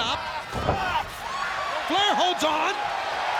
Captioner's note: blows thudding